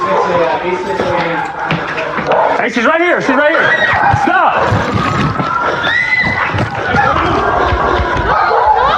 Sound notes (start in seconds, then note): 5.2 screaeamiming